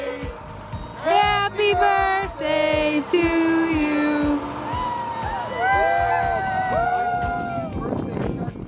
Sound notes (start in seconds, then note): 5.4 cheering